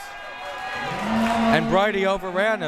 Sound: crowd members cheering

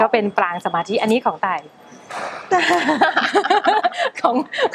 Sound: laughing

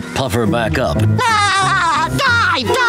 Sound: laughing

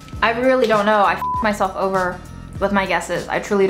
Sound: beeping

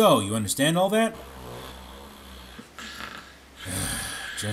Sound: snoring

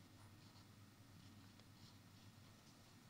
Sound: none

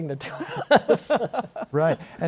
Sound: laughter

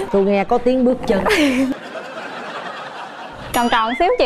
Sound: audience laugh

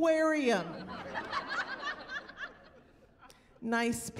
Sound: laughter

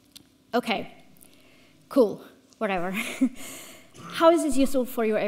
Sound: chuckles

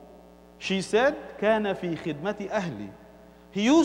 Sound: Arabic

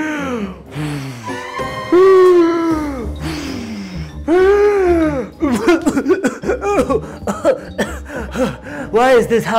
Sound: Big Bad wolf huffing and puffing, and coughing

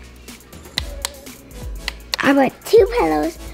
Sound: flashlight clicks on and off

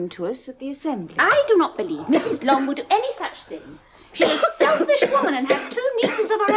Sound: Kitty coughing in background

